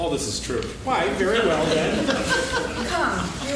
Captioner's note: laughing